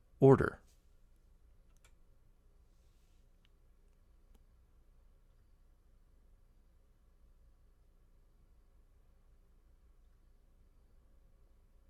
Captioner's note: pause